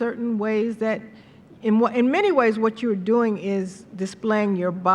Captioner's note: none